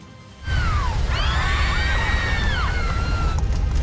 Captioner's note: passengers screaming